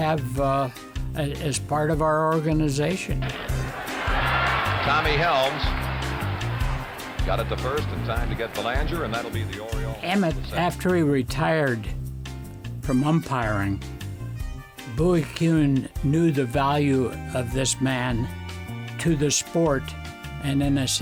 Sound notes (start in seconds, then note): 4.6 crowd cheers